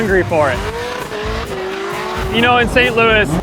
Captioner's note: engine revving